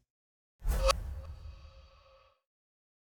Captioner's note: swooshing